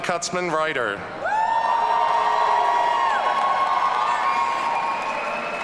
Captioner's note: audience cheering